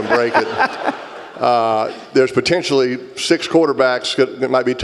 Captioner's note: laugh